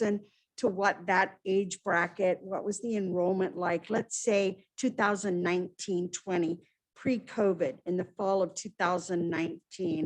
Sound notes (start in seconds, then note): none